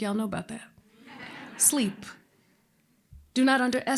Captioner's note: laughter